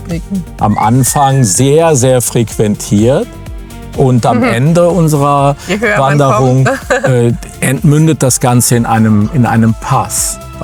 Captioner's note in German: gelächter